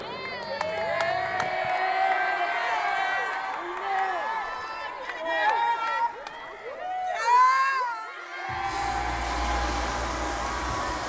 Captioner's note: cheering